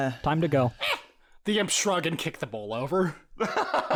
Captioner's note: imp squawk